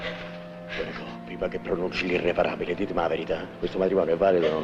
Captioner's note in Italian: sottovoce